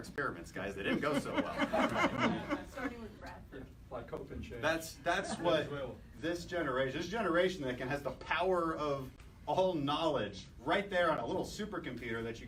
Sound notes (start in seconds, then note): 0.8 laughter